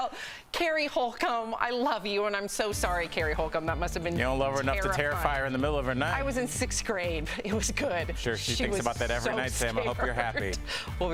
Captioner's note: laughter